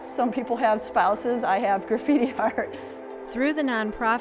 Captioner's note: chuckles